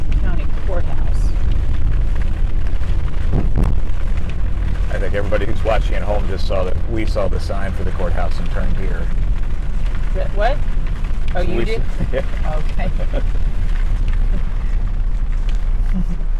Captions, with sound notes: county courthouse. (rain splattering) - I think everybody who's watching at home just saw that we saw the sign for the courthouse and turned here. - What? Oh, you did? - Yeah - Okay.